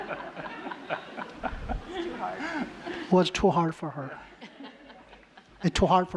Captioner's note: laughter